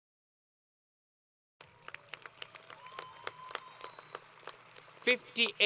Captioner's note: applause